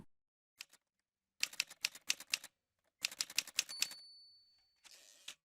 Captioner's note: typewriter sounds